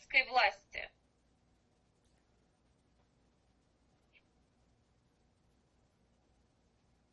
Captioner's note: pauses 11 seconds